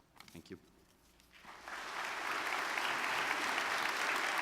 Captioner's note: audience clapping